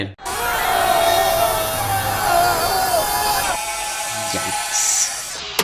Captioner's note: crowd yelling